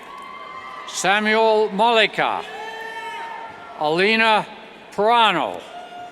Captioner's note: cheers